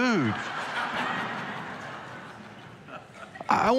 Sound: congregation laughing

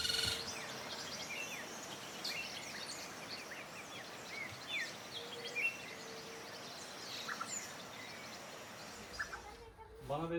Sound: birdsong

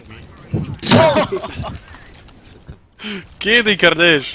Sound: oh oh haha!

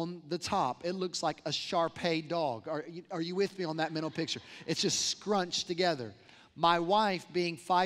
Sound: laughter

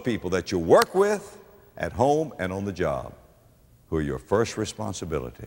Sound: clap

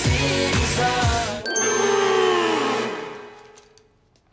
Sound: growling

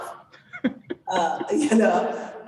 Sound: laughs

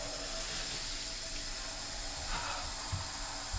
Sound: water starts

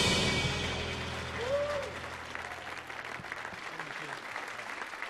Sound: audience applauding

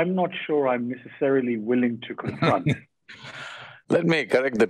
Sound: Sadhguru laughs

